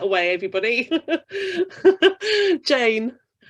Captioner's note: laughs